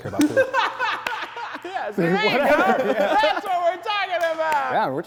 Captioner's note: everyone laughs